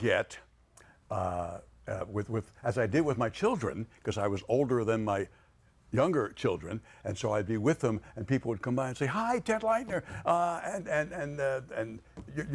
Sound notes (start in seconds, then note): none